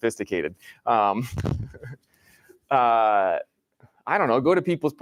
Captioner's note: laughs